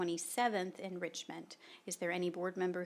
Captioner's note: none